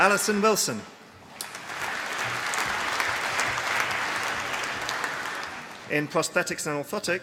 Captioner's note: applause